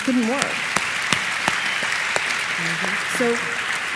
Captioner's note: applause